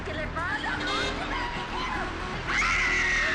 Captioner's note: woman screaming